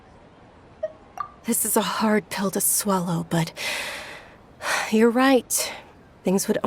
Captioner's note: sigh